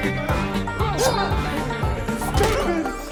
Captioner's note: Susan grunts; knife whooshes